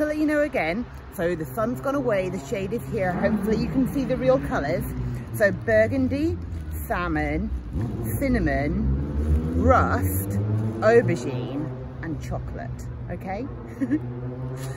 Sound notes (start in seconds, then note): 13.7 giggles